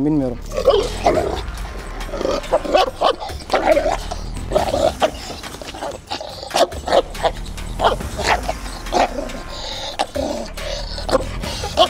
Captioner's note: barking, growling sounds and tension music